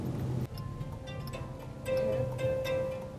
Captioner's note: phone alarm chimes